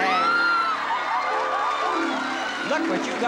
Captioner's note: screams